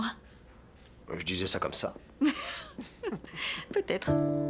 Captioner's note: laughter